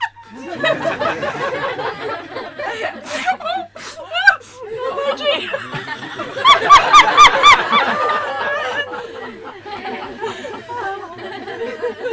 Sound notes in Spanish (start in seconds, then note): 0.1 Risas; 6.1 La interlocutora ríe incontrolablemente